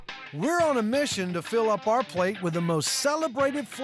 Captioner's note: none